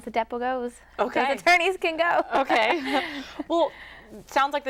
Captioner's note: giggles